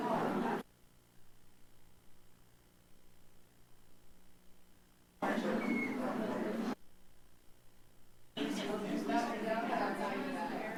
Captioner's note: indistinct background chatter